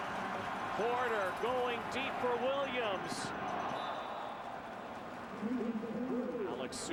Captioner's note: loud cheering